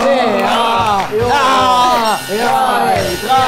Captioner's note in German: Schrille Klänge